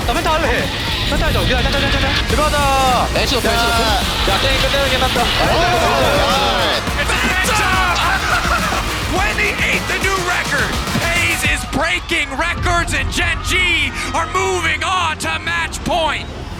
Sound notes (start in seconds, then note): 8.0 laughs